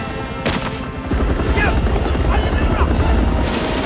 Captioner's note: Korean